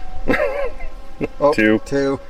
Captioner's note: laughing